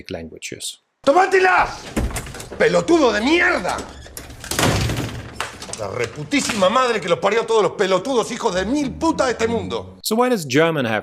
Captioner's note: speaks Spanish